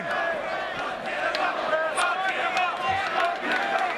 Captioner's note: crowd chanting